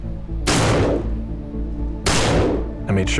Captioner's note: gunshots